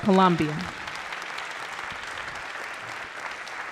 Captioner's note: applause